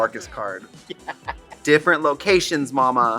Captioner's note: laughing